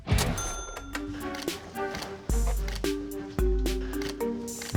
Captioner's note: camera shutter clicking; quirky music